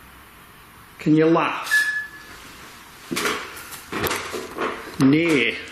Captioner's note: beeping